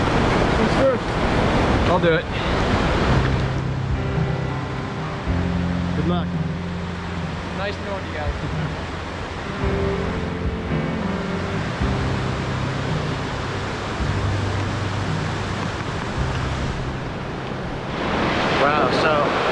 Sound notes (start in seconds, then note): 8.7 laughs; 10.3 water rushing